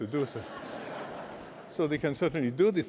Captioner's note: laughter